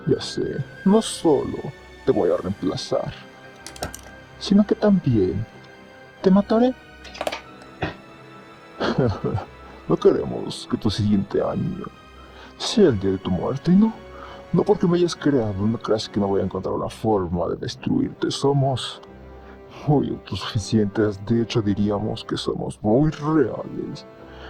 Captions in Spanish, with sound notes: Ya se, no solo te voy a remplazar Si no que tambien te matare (Risas) No queremos que tu siguiente año Sea el dia de tu muerte y no No porque me hayas creado no creas que no voy a encontrar luna forma de destruirte, somos Muy autosuficientes, de hecho diriamos que somos muy reales